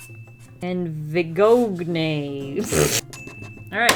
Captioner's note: laughs